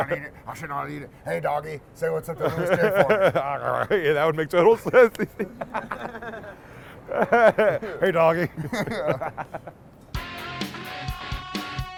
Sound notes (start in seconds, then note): 5.4 grunting; 8.8 laughing